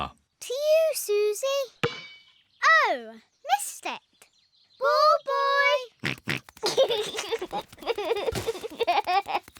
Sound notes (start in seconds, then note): 6.2 snorts and laughs